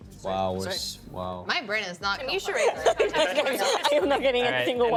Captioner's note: laughing